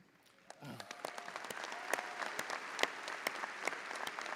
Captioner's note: audience applauding